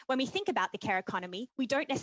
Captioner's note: speaking French